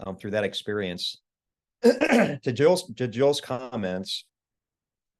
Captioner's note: cough